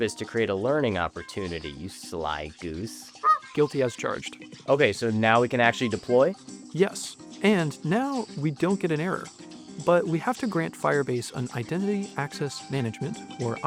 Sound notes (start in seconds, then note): 3.2 goose honk